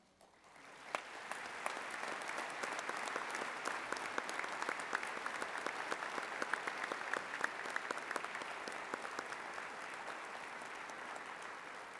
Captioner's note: applause